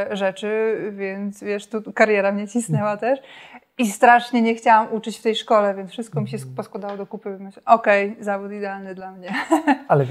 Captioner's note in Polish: śmiech